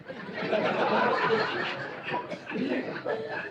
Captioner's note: laughter